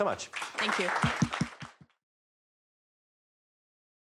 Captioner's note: applause